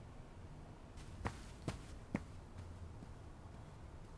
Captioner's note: βήματα